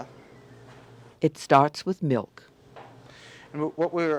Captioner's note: voiceover